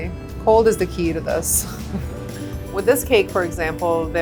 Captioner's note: laughs